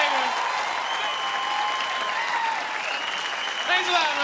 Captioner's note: audience cheering